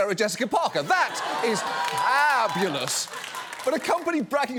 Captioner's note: audience cheers